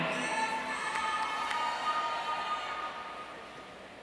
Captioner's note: audience cheering